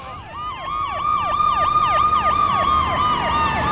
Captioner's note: distant Siren Wailing